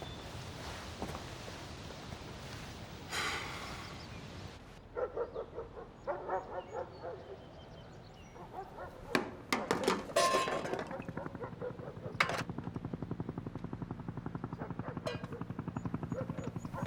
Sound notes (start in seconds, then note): 3.1 Pietro exhales; 4.8 dogs barking; 9.5 metal rattling; 10.7 helicopter blades whirring